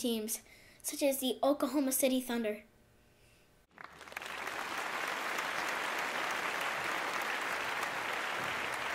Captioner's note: clapping